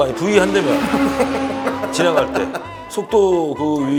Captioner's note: hahaha